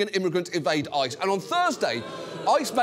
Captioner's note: audience boos